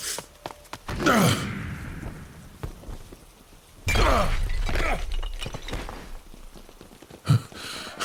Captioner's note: SFX jump and crash